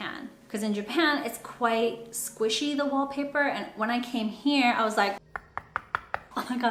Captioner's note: knock knock knock